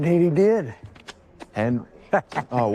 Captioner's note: Henry laughs